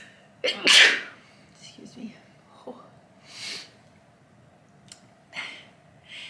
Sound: sneeze

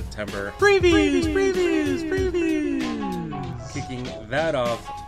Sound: echo effect

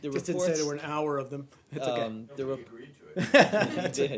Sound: laughter

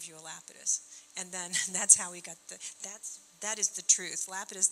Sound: chuckling

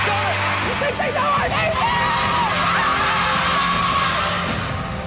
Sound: shouting

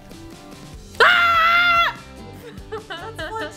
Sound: yelling

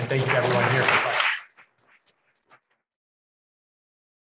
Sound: crowd applause

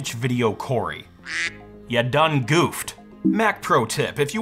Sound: duck quacks

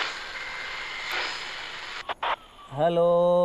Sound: radio static

